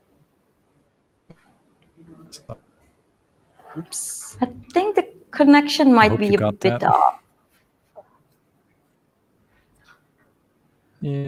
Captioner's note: no sound